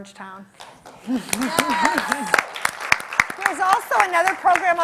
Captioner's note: clapping